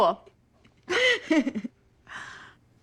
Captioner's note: laughs